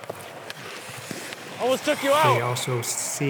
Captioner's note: skates scraping ice